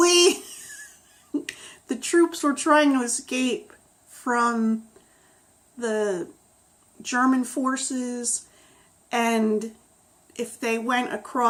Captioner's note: laughs